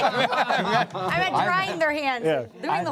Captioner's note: laughter